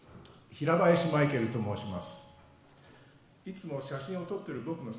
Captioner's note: speaking foreign language